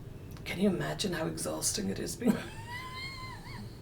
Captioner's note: she laughs